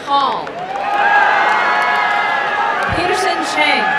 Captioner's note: applause and cheering